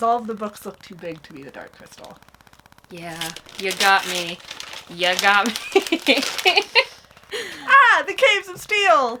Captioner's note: laughs